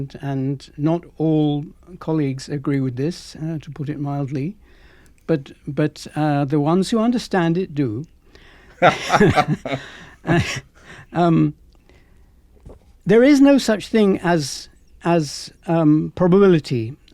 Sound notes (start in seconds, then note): 8.8 both laughing